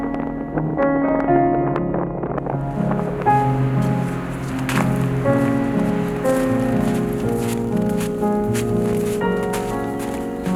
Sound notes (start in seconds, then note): 0.4 wind gusting; 6.7 footsteps crunching